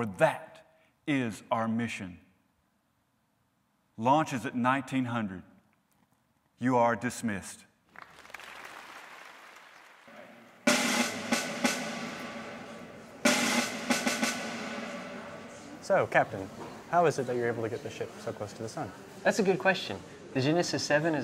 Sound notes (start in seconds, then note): 7.8 applause; 10.1 drum cadence